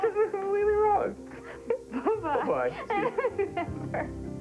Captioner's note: laughing